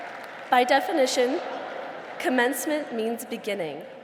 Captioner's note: applause